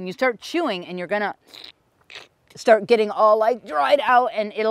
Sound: slurps

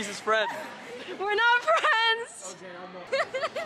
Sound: laughs

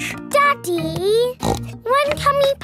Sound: snorts

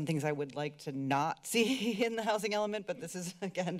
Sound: giggles

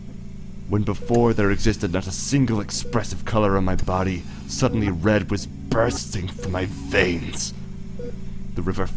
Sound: mechanical ambiance

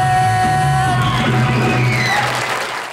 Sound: audience applauding

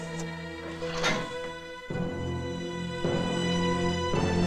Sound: metal clanks

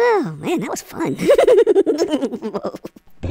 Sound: giggles

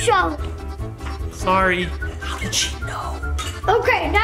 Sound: whispers

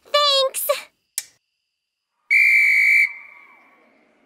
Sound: whistle blowing

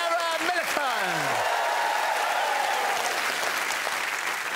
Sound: cheering and applause

